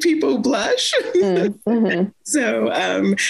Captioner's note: chuckles